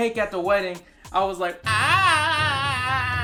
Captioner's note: imitates crying